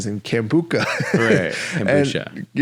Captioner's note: laughing